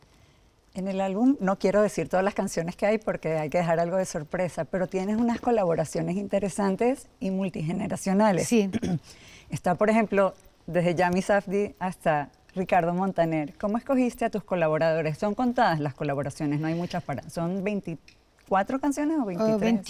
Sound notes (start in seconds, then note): 8.7 clears throat